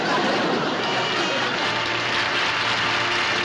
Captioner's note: applause